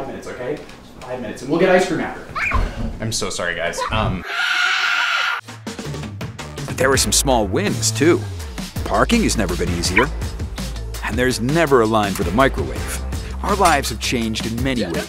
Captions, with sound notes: minutes. Okay. Five minutes and we'll get ice cream. I'm so sorry guys. [SCREAM]. But there were some small wins too. Parking has never been easier. And there's never a line for the microwave. Our lives have changed in many ways.